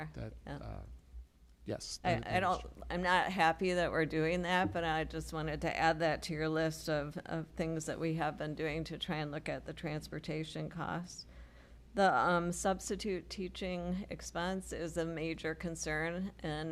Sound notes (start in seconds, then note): none